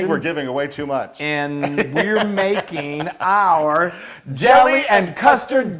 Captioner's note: laugh